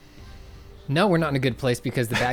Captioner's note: pat